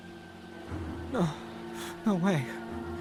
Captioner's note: gasping weakly